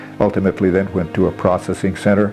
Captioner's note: non-english